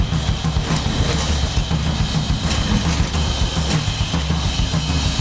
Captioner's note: machine clunking